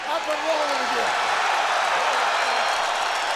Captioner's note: crowd cheering